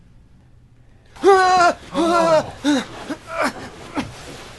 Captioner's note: ricky shouts; danny gasps